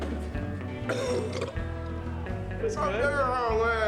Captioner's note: puking sounds